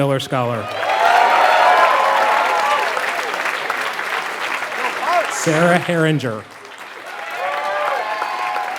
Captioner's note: applause